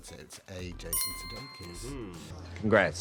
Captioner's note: chime dings